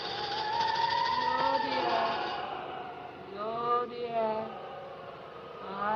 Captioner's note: rattling; woman's Voice